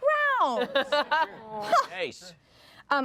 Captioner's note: everyone laughs